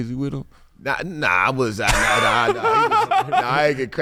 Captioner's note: laughing